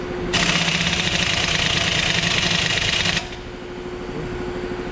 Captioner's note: impact wrench and air compressor whirring